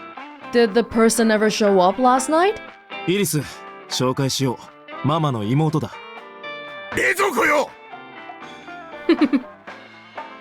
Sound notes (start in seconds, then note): 9.0 chuckles